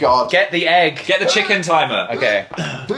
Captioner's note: straining